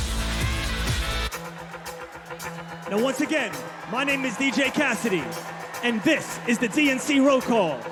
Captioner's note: cheers and applause